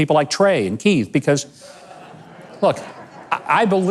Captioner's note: audience laughs